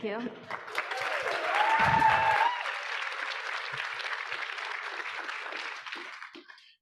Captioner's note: audience applauding; audience cheering